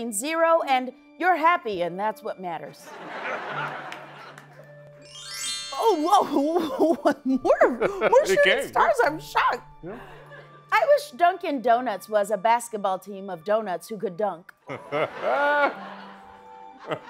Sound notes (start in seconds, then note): 2.9 laughter; 4.8 chimes; 6.2 laughs; 14.3 laughter